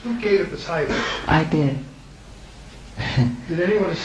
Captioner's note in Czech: chechtá se